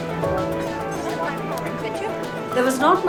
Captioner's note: crowd talking